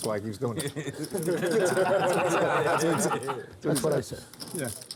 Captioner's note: laughter